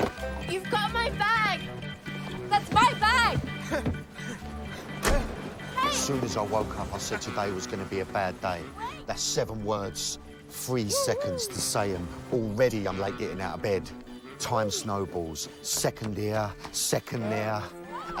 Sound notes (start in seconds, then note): 3.8 panting